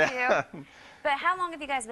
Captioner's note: laughs